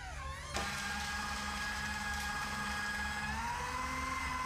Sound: shredder whirring

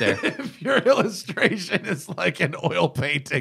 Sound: laughter

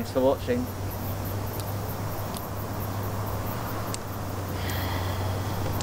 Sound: dripping

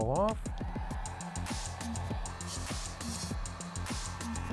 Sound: whirring

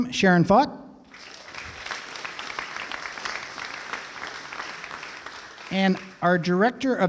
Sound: applause

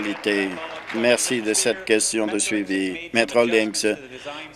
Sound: applause

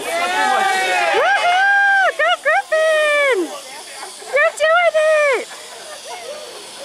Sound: cheering

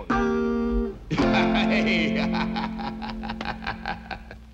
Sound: laughter

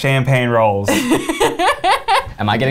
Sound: laughs

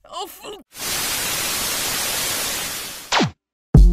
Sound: static cues

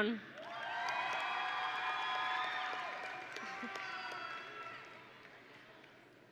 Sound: audience and graduates cheering

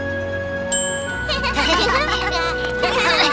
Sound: giggles

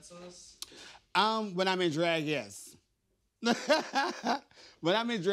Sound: laughs

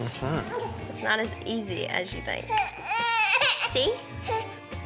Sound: cries

